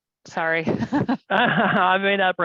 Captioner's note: laughing